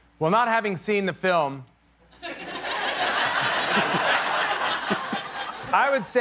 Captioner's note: laughter